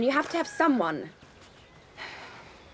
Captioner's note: sighs